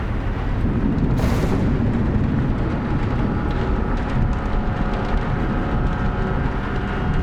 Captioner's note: thunder rumbling; tense music